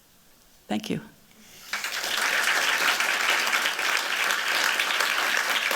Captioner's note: applause